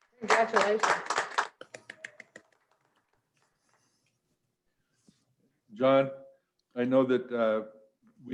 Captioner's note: clapping